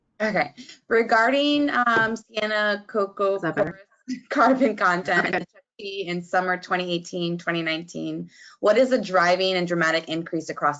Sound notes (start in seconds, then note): 4.1 chuckling